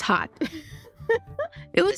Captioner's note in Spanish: risas